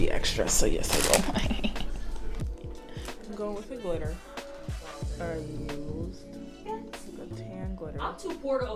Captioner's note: laughs evilly